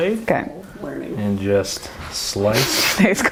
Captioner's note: whispering; laughing